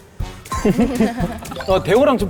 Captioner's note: bursts out laughing